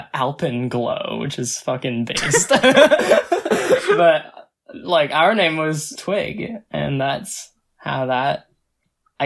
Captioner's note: both laugh